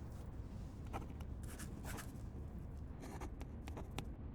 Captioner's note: pens scribble